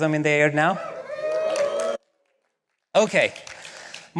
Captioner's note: cheering